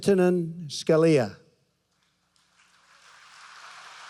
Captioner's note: applause